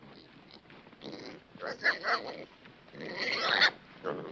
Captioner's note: pig squealing